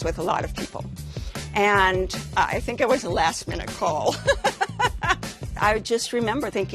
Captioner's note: laughs